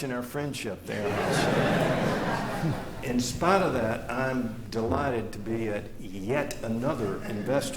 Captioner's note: laughter